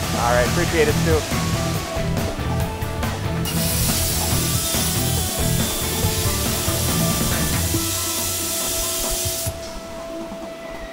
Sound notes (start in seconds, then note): 2.4 bright upbeat music; 3.4 welding machine crackling